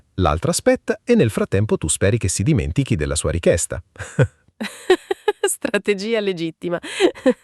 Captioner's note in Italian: risate